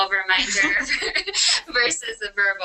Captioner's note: laughter